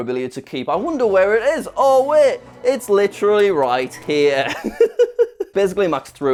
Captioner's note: laughs